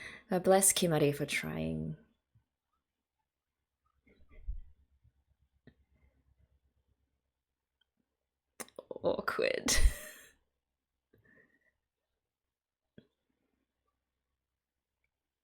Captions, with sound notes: Bless Kimari for trying. Awkward! [laughs]